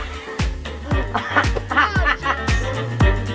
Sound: laughing; lively music

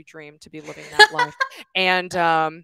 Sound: laughs

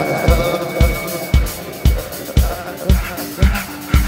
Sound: vocalist panting

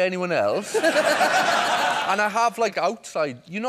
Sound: laughter

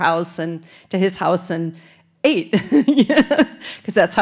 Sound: laughing

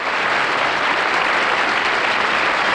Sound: audience applause

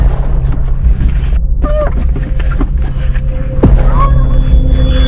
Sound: suspensful music; muffuled screams; screech

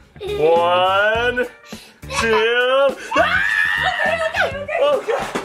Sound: screams

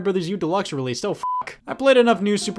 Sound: beep

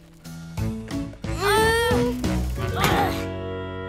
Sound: moaning

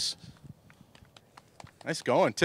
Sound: clapping

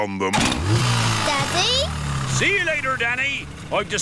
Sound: engine starts

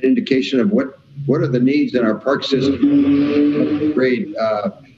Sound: faintly speaking

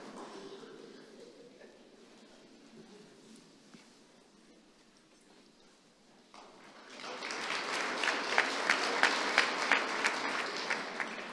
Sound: applause

